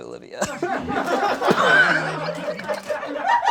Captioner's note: crew laughs